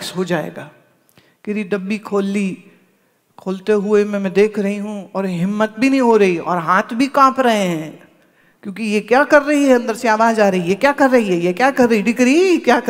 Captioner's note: daughter in Gujrati